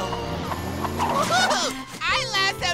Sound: giggling

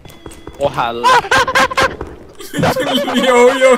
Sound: ape noises

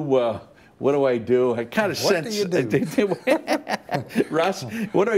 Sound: laughter

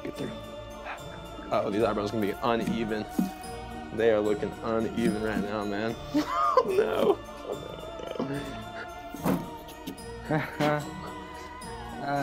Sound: laughs

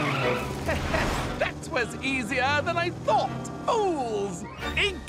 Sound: chuckles

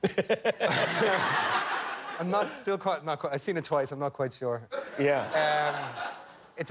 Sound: laughter; laughter

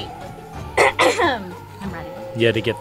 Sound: clearing throat

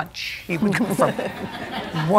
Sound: laughter

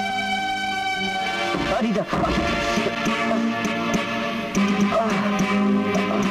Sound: groans

